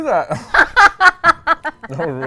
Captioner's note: laughs